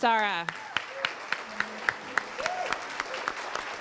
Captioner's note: applause